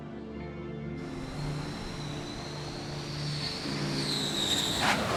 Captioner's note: jet engine whirring